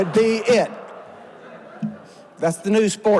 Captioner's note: audience laughs